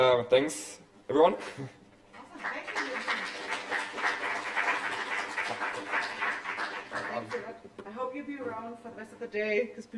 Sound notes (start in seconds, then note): 2.2 applause